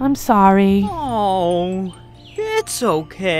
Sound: Jill yelps and cries

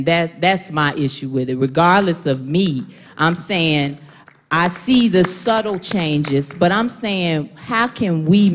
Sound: applause

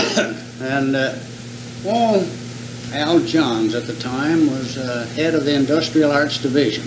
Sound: coughs

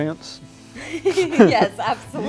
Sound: laughs

